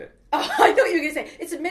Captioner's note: laughing